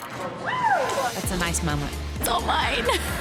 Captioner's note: cheering